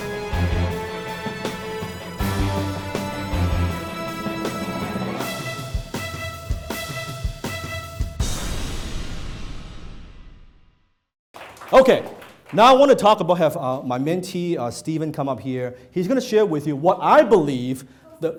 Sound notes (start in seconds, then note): 11.3 applause